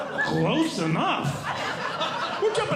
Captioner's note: audience Laughing